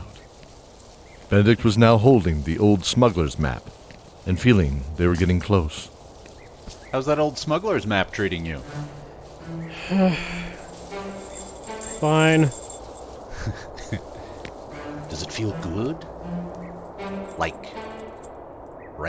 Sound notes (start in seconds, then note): 9.8 sigh; 13.3 snicker